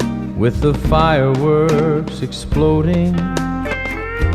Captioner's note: with the fireworks exploding